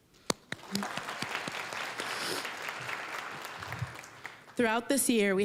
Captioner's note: applause